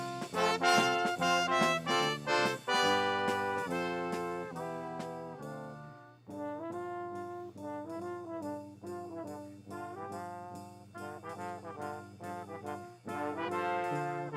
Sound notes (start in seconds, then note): none